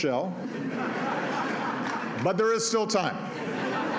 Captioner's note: laughter